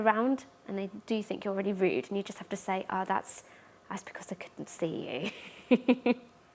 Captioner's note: laughs